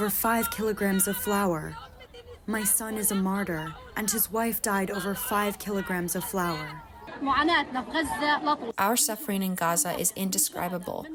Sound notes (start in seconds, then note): 9.3 through translator